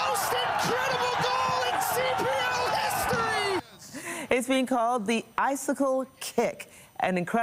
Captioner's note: applause